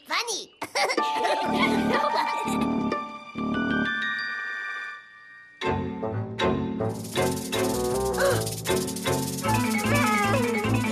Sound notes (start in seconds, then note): 0.6 laughs; 6.9 fake snake rattle